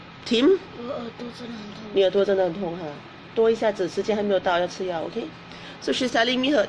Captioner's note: speaks in foreign language